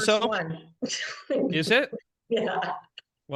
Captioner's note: laughing